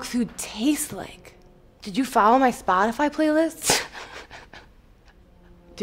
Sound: laughs

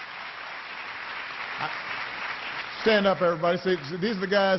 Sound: applause

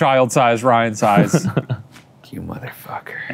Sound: laughs

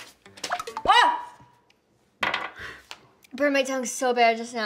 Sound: yelling

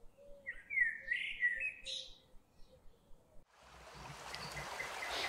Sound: birds continue chirping; leaves rustling; water splashing

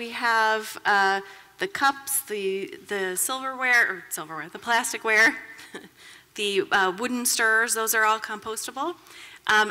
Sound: laughter

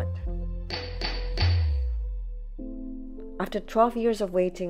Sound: hammer bangs

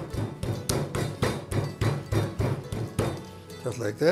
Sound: mallet thudding

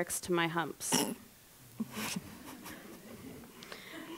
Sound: chuckles

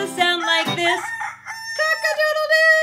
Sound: rooster crowing

